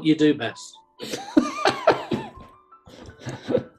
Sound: laughing

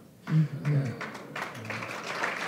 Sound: applause

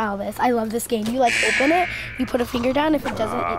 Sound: buzzer

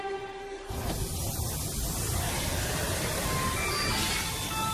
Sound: suspense music; water splashing; mobile ringing

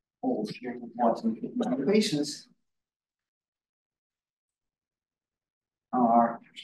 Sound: audio distorting

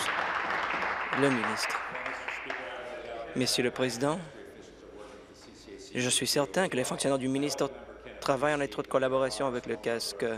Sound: applause

